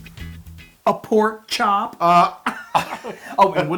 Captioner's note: laugh